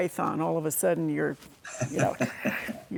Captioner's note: laughing